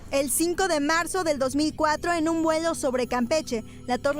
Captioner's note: in vreemde taal